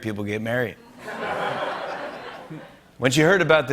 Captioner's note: laughter